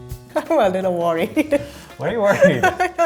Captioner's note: jazzy music; laughs